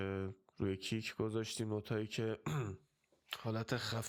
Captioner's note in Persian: گلویش را صاف می‌کند